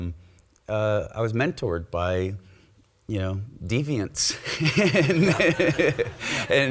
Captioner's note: laughs